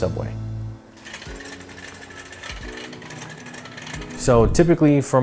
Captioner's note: cart wheels creaking